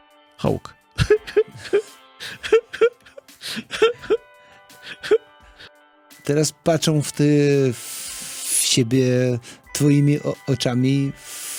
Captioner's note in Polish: śmiech